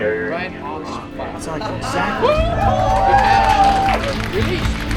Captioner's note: cheering